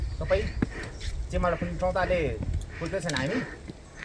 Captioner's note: indistinct conversation